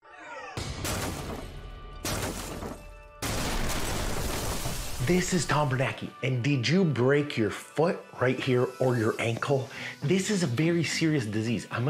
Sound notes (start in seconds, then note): 0.7 gun shots; 0.7 breaking glass